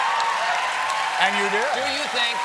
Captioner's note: cheers and applause